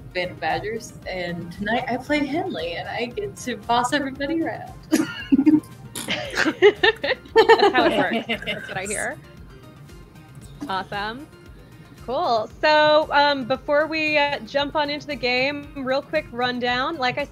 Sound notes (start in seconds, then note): 4.9 laughter; 8.0 blows raspberry